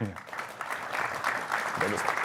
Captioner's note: applause